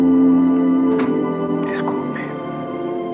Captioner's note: door Opening; door Closing